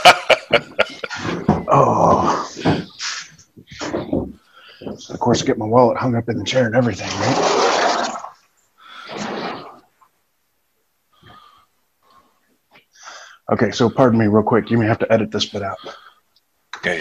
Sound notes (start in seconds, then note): 0.0 laughing; 1.0 groaning; 9.0 furniture scraping